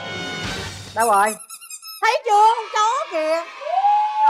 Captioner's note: chip chip sound of the toy